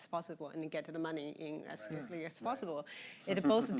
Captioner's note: chuckling